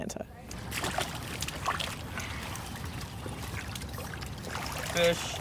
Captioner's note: water splashes